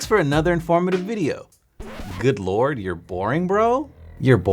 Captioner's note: record scratches